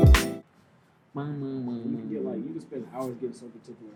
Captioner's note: humming